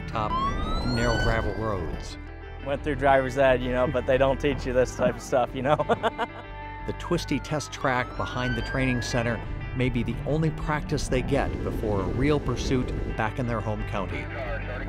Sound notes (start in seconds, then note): 5.6 laughs